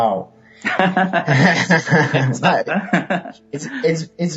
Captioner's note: laughing